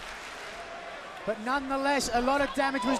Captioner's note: crowd cheering